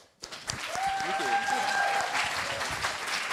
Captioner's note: applause